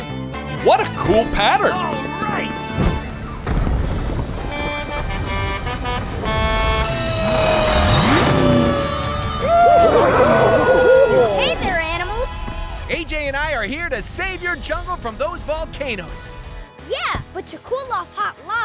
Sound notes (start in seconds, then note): 4.2 honking; 7.1 siren blaring